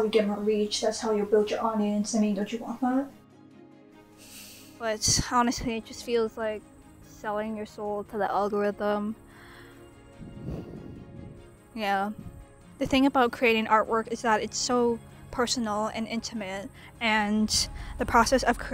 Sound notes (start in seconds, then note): 10.2 sigh